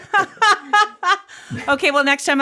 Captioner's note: laughs